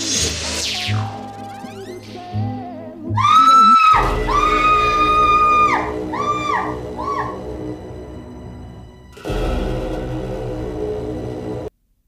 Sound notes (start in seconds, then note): 3.1 screaming